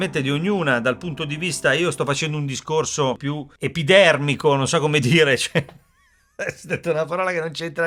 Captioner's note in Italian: risate